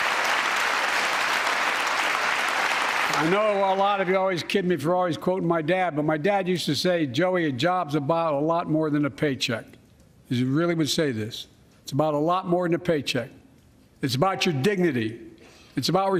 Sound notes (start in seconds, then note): 0.0 applause